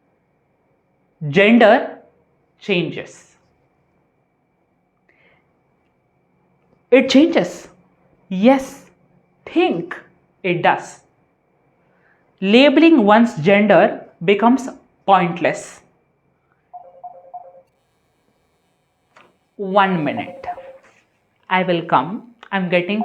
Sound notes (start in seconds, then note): 16.7 incoming call